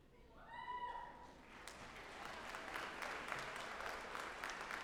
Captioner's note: audience applauding